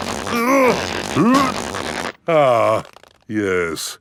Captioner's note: grunting